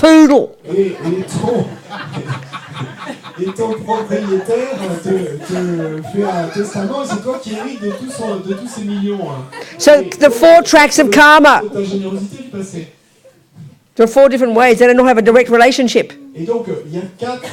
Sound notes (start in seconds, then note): 0.3 speaking in French; 11.3 speaking in French; 17.3 speaking in French